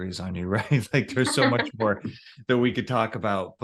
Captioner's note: chuckles; laughs